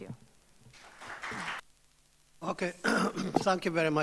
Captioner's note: audience applauds